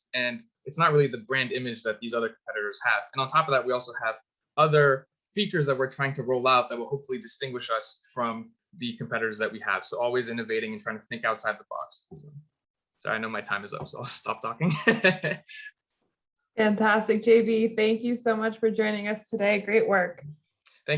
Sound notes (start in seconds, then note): 14.4 chuckles